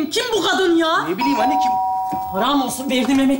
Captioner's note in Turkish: Zil çalar